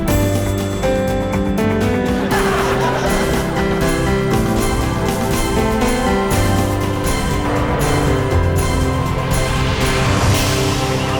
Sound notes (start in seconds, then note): 2.0 audience laughing